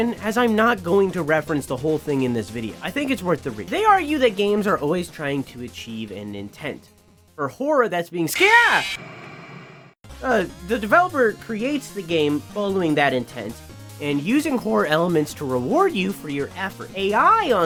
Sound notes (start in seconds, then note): 8.3 screams